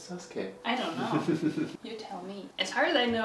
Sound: laughing

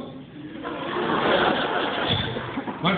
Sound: laughter

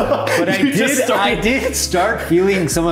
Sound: laughs

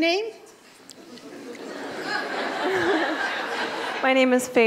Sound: laughter in audience

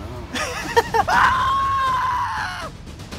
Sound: scream

